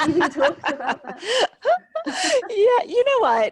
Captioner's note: laughing